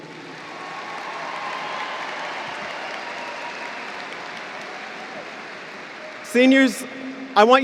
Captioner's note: applause